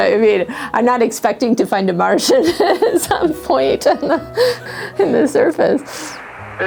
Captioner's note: laugh